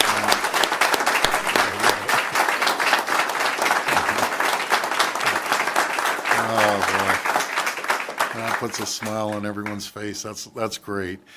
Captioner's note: applause